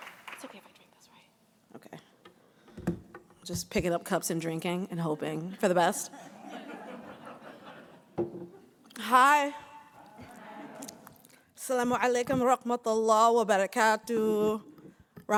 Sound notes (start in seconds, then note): 5.8 audience laughing; 9.8 crowd; 11.8 speaking in foreign language